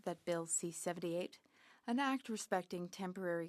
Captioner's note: speaking French